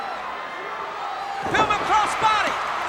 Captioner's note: crowd cheering; body thudding